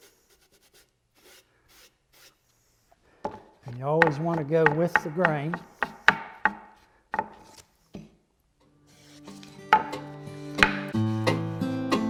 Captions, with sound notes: And you always wanna go with the grain. (wood knocks) (guitar music)